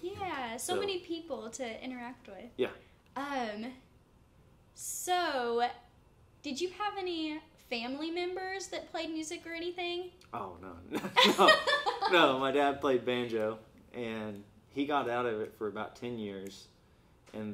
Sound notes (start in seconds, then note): 11.0 laughs